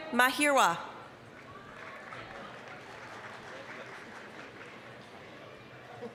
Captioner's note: applause